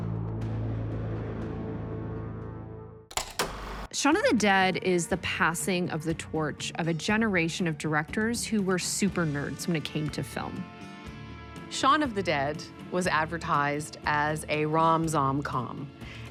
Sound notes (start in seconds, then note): 0.1 intense music; 3.1 film reel clicks